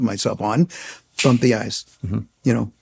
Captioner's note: snaps fingers